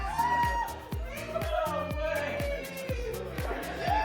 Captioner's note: talking